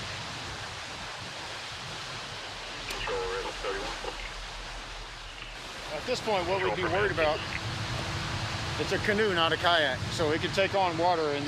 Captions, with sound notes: [police radio traffic] At this point what we'd be worried about, it's a canoe, not a kayak, so it could take on water